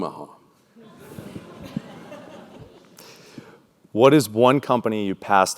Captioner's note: laugh